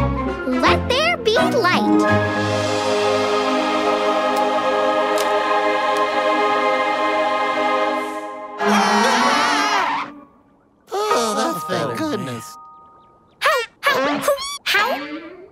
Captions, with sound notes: Let there be light. [screaming] [sighing] That's better. How? How? Hoo. How?